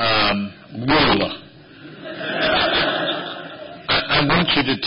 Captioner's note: laughter